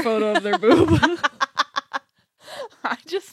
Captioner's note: laughs